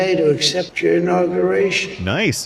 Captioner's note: slurred